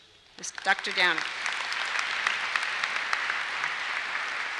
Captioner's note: applause